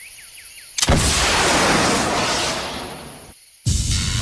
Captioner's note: rocket blasts; explosion booms